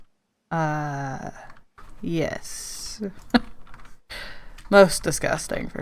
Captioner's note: laughs